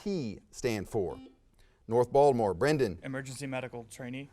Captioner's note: buzzer sounds